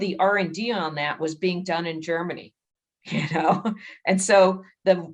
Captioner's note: chuckles